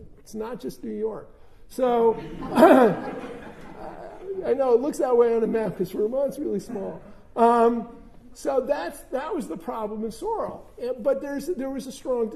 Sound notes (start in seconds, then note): 2.1 laughter